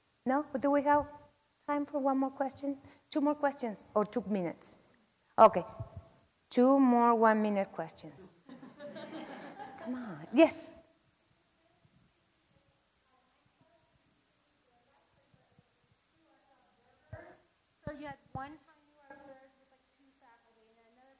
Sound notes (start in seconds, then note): 8.5 laugh